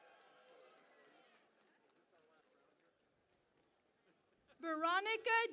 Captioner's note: cheering and Applause